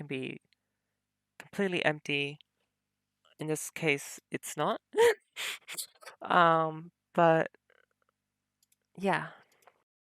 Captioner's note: laughs